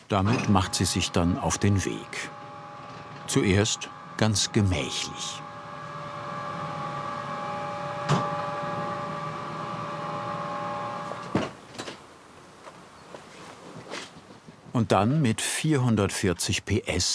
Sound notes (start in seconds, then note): 5.6 whirring